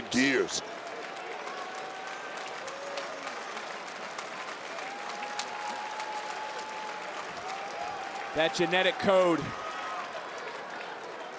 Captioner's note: applause